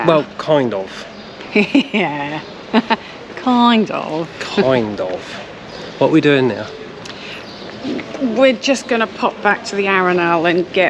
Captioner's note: laughs